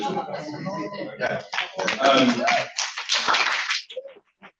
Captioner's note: applause and cheering